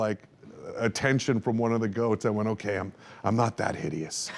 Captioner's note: laughs